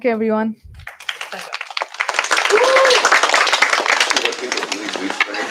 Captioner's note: applause